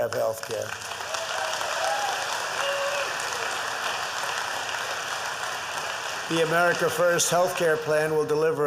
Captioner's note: applause